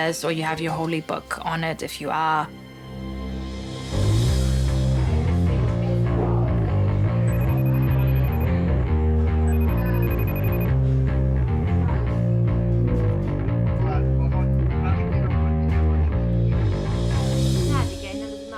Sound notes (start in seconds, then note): 4.9 FaceTime ringtone trilling; 4.9 upbeat bass guitar music; 14.5 speaking in foreign language